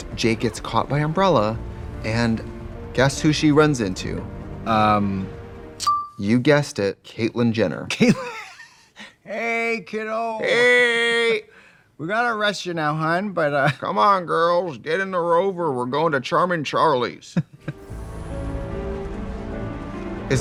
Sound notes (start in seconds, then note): 8.9 laughing; 17.6 dramatic music